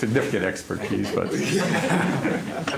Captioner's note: laughter